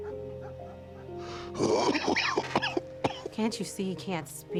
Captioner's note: coughing